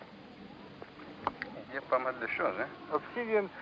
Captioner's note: speaking french